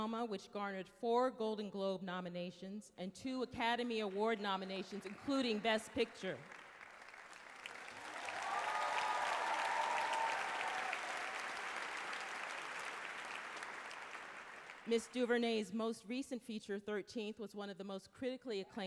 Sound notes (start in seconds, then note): 7.2 applause, some cheers